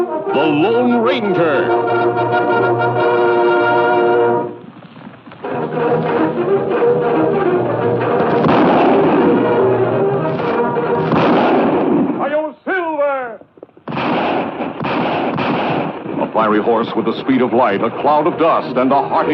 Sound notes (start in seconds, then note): 5.4 upbeat orchestral music; 8.1 gunshot blasts